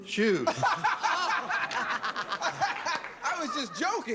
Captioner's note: laughter